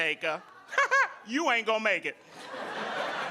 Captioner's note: audience laughing